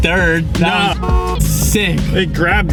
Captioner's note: horn honks